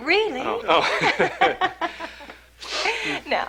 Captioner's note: La risa